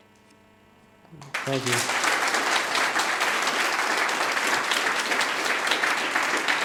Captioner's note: audience applauding